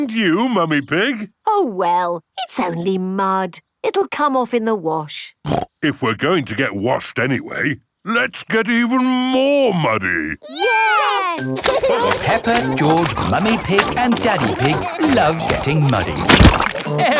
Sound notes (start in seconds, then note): 11.0 laughing